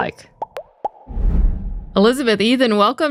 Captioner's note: air popping